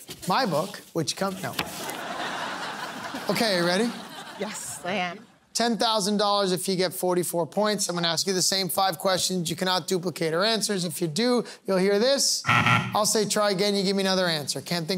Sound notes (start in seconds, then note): 1.6 laughter; 12.4 buzzer beeping